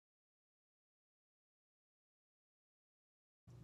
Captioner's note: pause